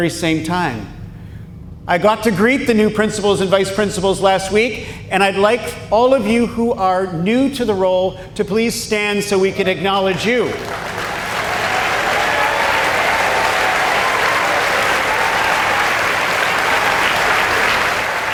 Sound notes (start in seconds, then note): 10.1 applause